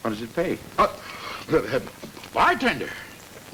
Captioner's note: none